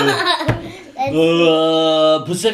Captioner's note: laughter